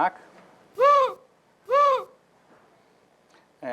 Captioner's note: bird call